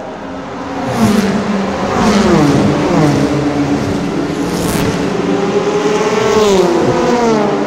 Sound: car engines

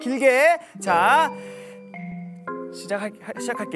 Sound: inhaling

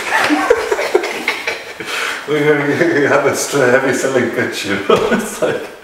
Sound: laughter

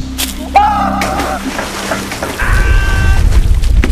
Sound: splashing

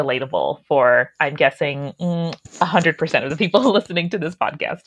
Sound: laughing

